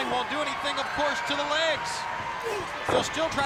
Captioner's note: blows thudding